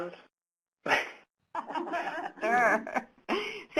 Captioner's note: laughter